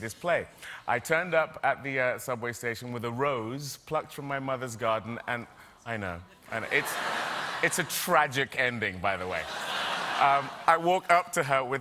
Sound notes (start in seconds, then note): 6.6 audience reacts